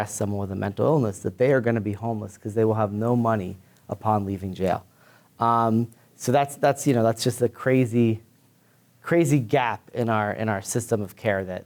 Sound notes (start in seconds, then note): none